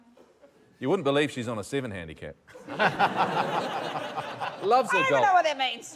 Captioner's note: laughter